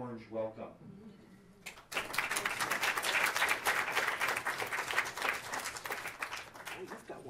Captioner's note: applause